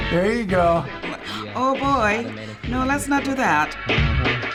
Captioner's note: gasps